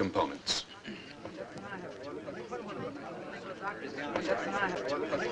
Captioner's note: group chattering